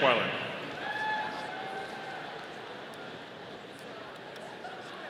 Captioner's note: audience cheering